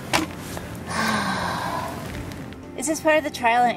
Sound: sighing

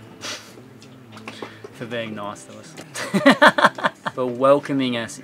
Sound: scoffs; laughs

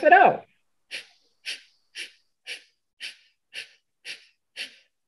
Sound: sniffling

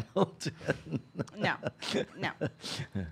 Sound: laughing

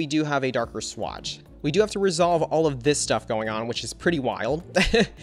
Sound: laughs

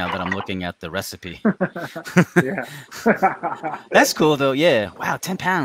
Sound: laughing

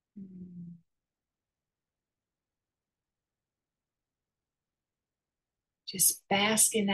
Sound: pause

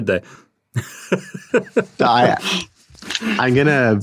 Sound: laughing

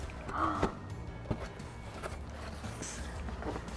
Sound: gasp

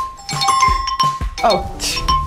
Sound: app chimes

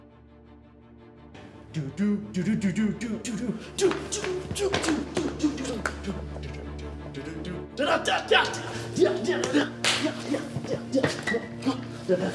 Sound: mouth drumming sounds

